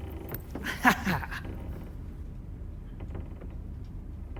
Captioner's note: laughing